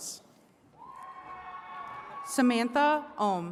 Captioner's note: attendees cheering